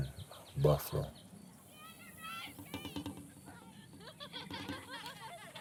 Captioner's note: children shouting and laughing